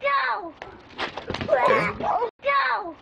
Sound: girl groans

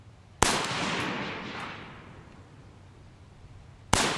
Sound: gunshots

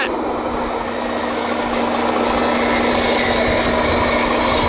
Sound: engines chugging

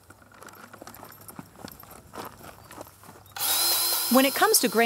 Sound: footsteps & drill noise

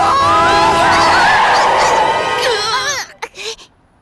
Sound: screeching tires; screams

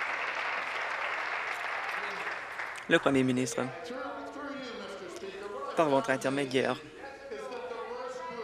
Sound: applause

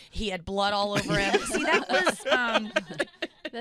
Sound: laughing

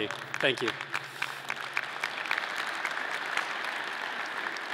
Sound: audience clapping

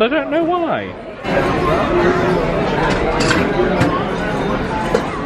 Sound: people chattering

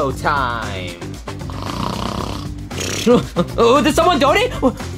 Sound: snores

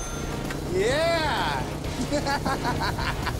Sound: laughs

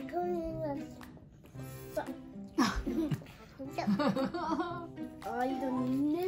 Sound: laughs

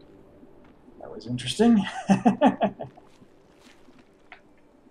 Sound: laughs

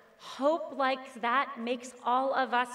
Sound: none

